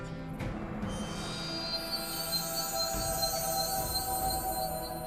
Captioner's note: stone chiming